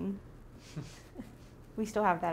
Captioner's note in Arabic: يضحك